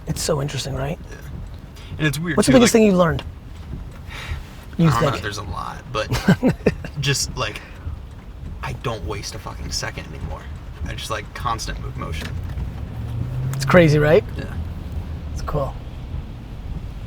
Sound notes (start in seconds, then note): 4.7 sighs; 5.9 Gary laughs